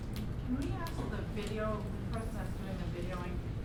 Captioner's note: voiceover